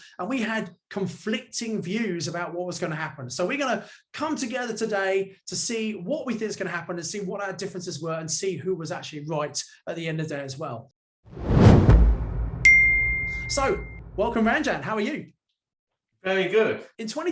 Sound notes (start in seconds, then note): 11.3 wind rushing; 12.6 bell tinging